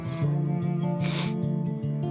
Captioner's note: sniff